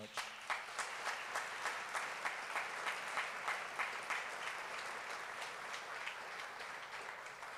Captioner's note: applause